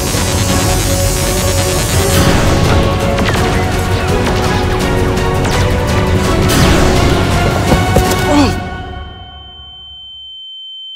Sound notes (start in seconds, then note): 0.0 buzzing sound effect; 2.2 explosion; 3.5 intense music